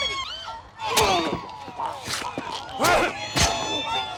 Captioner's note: groans